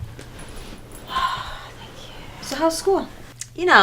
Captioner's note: Kim sighs